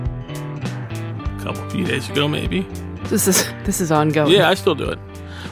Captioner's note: laughs